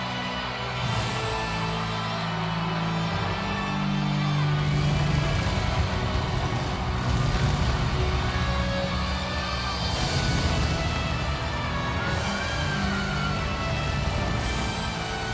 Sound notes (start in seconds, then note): 9.5 crowd cheering; 9.5 upbeat music continues